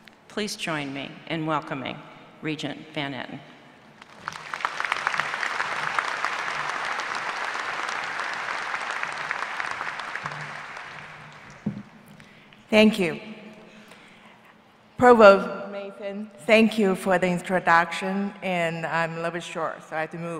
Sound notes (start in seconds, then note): 4.0 applause